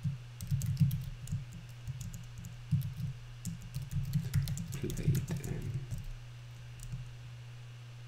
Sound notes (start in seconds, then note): 3.4 typing